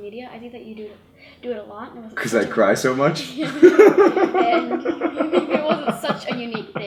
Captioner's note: laughs